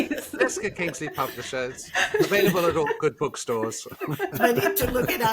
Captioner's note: laughs